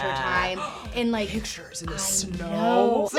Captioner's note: gasps